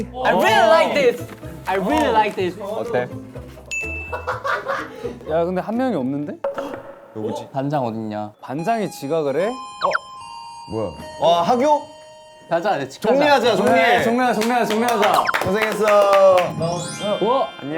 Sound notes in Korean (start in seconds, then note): 8.6 이때싶 기가 막히게 울리는 Alarm